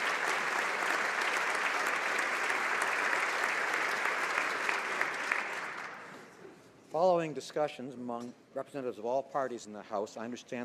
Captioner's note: applause